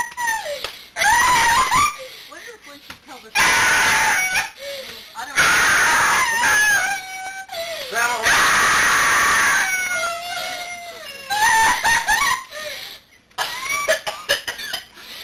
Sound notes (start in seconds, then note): 8.3 wailing continues; 13.3 coughing